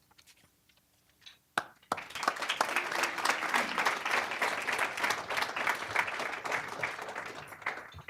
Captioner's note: applause